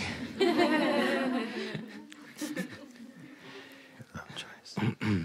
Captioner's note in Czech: smích